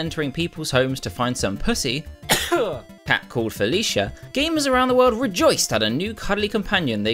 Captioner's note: sneezes awkward pause